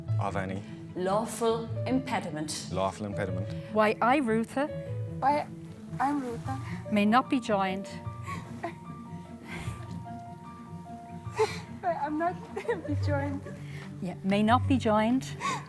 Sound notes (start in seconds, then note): 8.3 chuckling; 15.4 chuckling